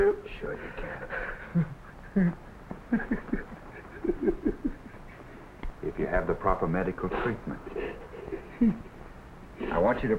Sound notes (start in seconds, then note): 0.8 cries